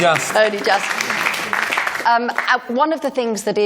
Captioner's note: applause